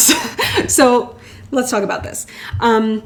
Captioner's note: laughing